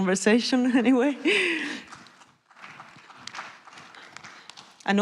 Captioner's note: applause